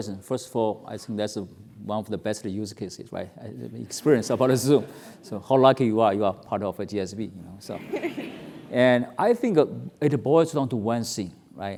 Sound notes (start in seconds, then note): 7.8 laugh